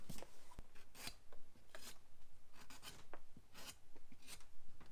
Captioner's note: knife scraping